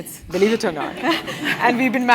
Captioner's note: laugh